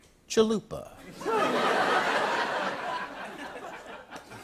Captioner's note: laughter